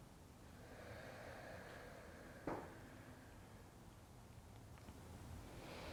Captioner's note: breathing